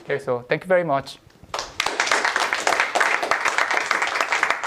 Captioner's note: applause